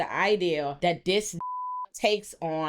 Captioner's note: beep